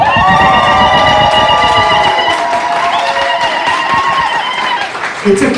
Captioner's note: cheers lalalalalalalala